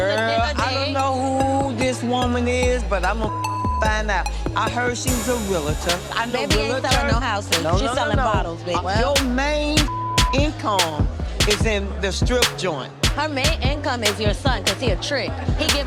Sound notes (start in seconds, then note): 3.3 beep; 9.7 beep